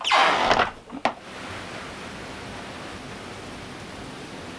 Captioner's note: door creaking